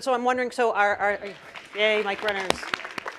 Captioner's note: audience applause